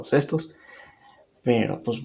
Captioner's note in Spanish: Silencio